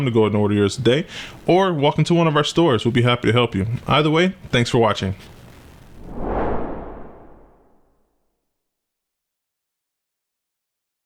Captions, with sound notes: to go and order yours today. Or walk into one of our stores. We'll be happy to help you. Either way, thanks for watching. (swooshing)